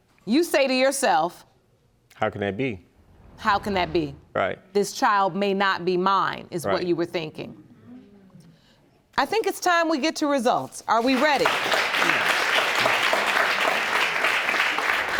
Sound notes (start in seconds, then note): 11.0 audience claps